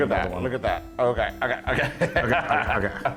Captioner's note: laugh